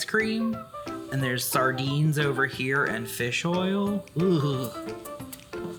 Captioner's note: shudders